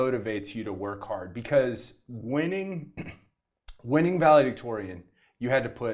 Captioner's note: coughs